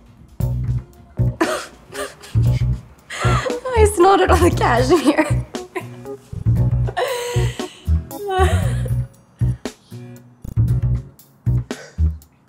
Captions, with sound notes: [ laughs ] I snotted on a cashmere. [ both laugh ]